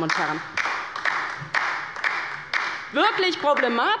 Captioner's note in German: Beifall bei der LINKEN